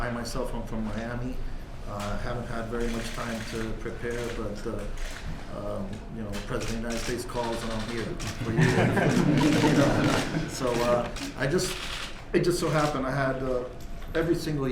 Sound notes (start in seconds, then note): 8.3 laughter